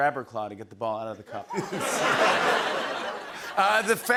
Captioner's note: laughter